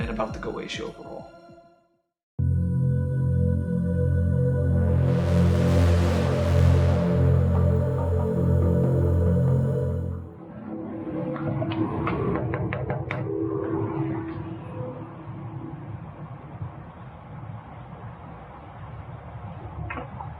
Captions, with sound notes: and about the Goetia overall. (eerie music) (knocking)